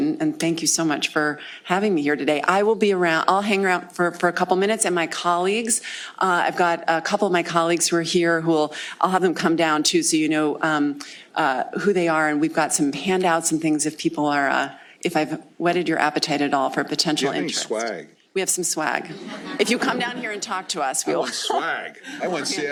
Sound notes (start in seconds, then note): 19.0 laughter